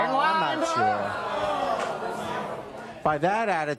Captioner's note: audience booing